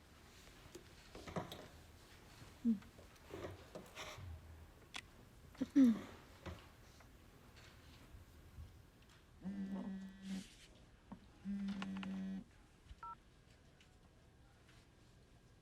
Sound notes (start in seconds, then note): 4.9 phone vibrating; 5.6 clears throat